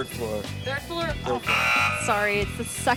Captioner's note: buzzer sounds